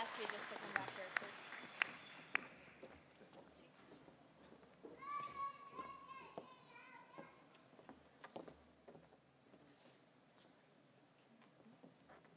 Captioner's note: applause